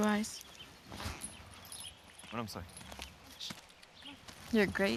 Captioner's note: talking softly